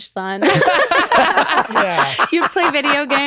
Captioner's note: laughter